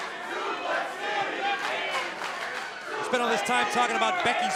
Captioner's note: crowd cheering